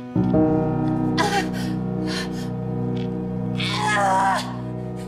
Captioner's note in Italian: una donna urla